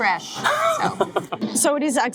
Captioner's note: laughing